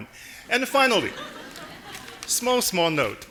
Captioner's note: audience laughing